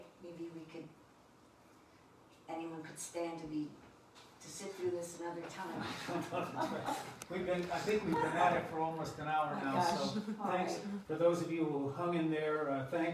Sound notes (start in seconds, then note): 5.9 laughing